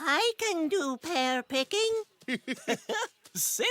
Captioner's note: laughing